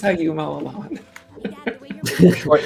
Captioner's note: laughter